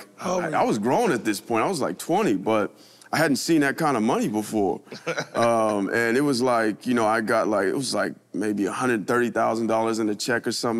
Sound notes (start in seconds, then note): 4.9 chuckles